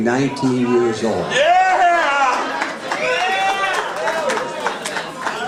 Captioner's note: audience cheering